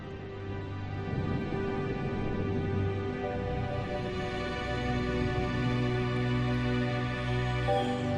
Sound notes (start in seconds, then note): 0.9 thunder